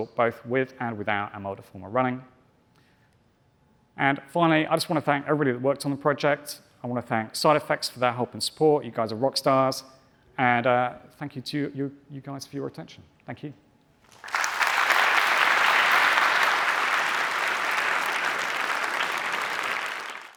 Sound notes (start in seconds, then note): 14.0 applause